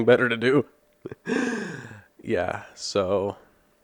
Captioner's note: pained laugh